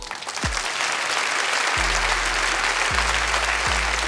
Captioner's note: audience applauding